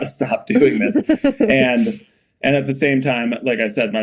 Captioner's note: Mikaela laughing